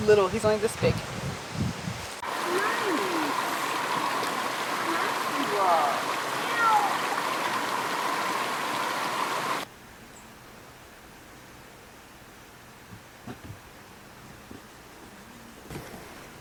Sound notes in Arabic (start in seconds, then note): 6.4 مواء القطة